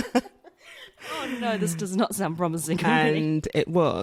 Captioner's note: laughs for a long time